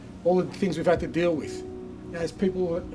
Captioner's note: none